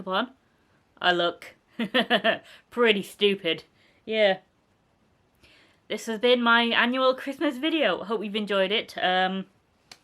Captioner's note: laughter